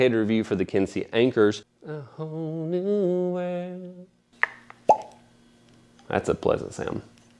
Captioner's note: pop!